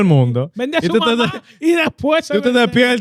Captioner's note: speaking Foreign Language